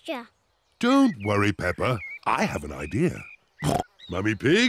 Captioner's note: oinks